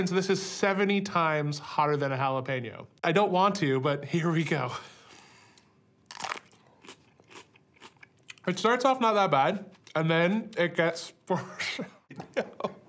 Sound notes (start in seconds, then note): 6.0 pepper crunching